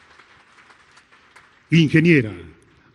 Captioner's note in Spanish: aplausos